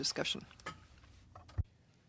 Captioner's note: speaking French